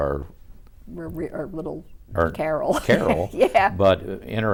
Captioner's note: laughs